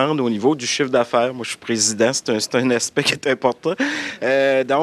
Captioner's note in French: rires